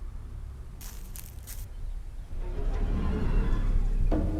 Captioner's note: footsteps pattering